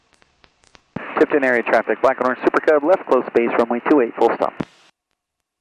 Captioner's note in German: über Flugsicherungsfrequenz